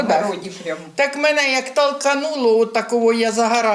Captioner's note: blast wave